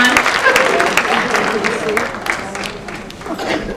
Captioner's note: laughter